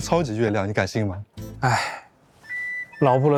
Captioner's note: sigh